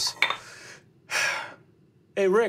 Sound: sighs

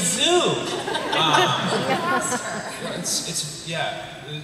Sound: laughter

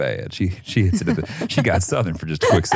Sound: laughs

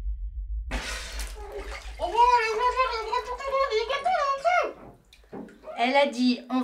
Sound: speaks in her snorkel

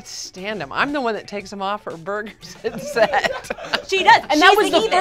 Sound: laughs

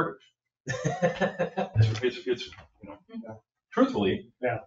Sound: people chuckle

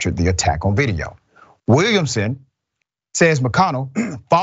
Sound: cough

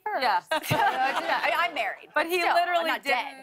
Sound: laughter

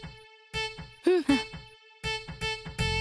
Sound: scoffs

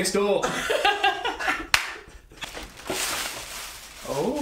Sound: men laughing

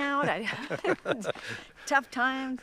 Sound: laughs

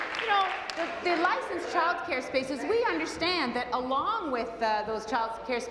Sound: applause

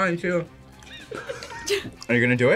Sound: both laugh

